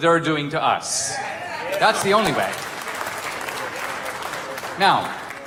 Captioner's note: audience cheering